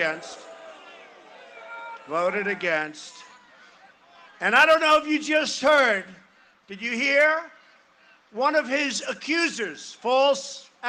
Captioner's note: cheering and applause